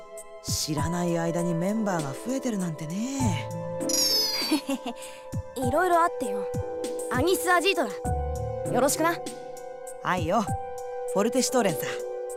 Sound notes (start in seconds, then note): 4.3 awkward chuckle